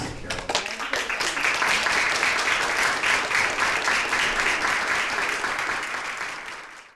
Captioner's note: applause